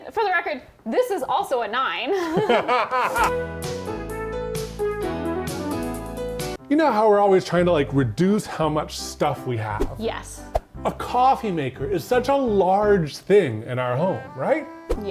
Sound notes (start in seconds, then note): 2.1 laugh; 3.0 light music